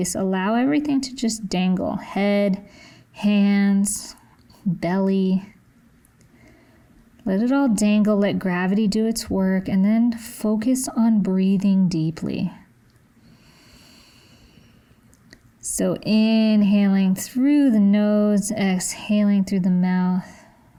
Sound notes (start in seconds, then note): 13.3 inhales